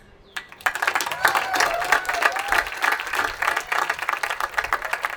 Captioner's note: attendees applauding